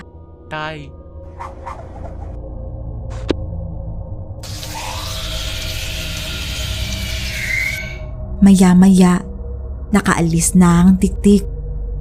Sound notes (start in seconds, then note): 4.5 tiktik shriek